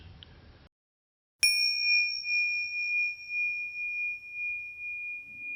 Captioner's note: bells chiming